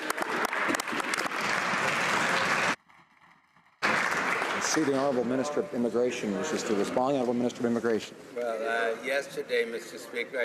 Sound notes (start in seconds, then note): 3.8 some Applause